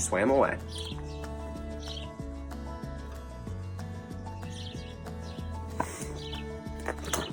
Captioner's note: upbeat music; birds chirp